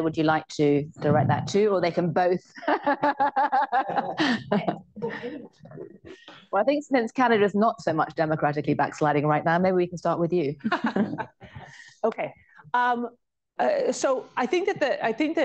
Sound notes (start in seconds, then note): 2.6 laughs; 10.6 laughter